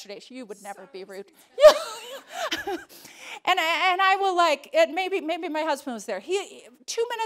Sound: laughs

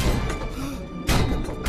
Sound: carl gasp

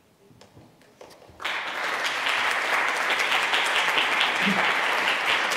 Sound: audience applauds

